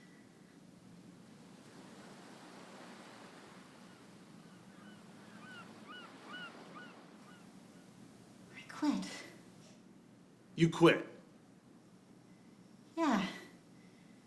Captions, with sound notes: (Sounds of ocean surf and distant cries of seagulls) I quit. You quit? Yeah.